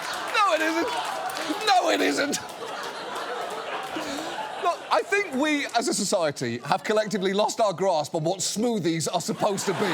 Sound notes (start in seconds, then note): 2.6 laughs